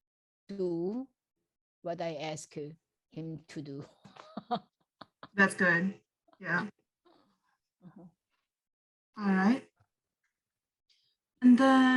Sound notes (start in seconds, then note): 3.9 laughs